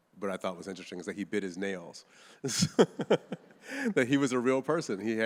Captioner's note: laughs